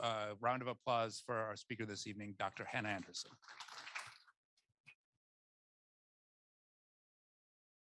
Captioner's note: applause